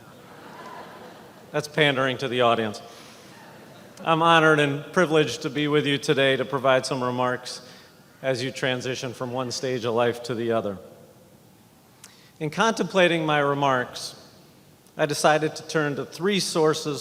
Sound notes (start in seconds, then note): 3.3 laughing